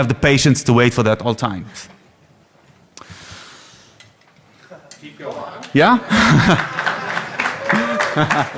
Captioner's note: applause